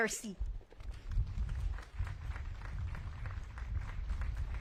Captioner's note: audience claps